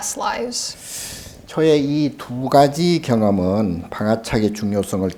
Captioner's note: speaking Korean